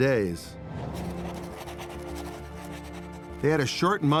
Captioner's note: pen scratching